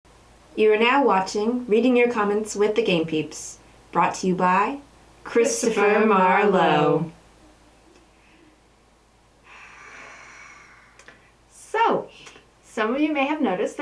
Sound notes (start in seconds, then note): 9.4 sigh